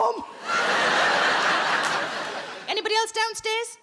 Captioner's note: audience laughs